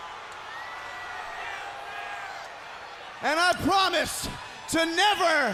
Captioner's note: crowd cheering; crowd chatter